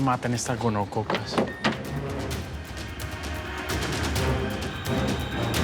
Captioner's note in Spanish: ruido al entrar